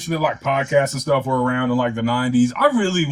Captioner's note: laughing